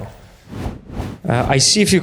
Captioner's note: whooshing